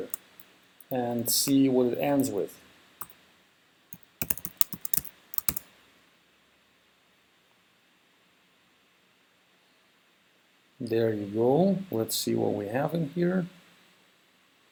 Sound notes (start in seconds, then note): 3.9 typing